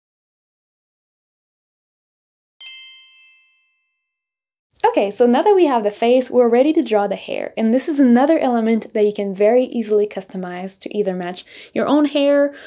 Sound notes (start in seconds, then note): 2.6 bell chimes